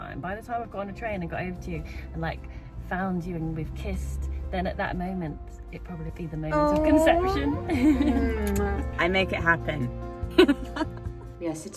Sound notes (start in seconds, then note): 8.4 kissing; 10.8 laughing